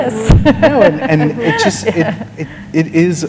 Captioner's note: laughter